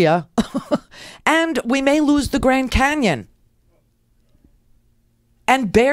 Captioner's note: laughs